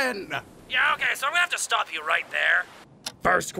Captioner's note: via phone